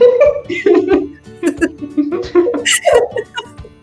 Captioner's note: laughing